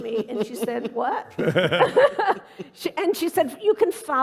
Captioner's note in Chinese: 笑聲